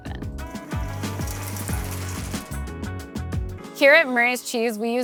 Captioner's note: smooth groovy music; pasta clattering